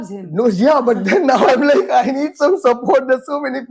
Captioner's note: laughs